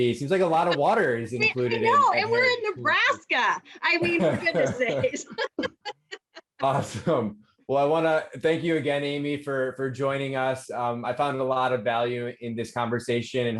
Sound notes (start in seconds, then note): 5.5 both laugh